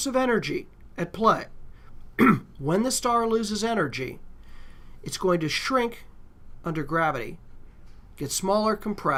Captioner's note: cough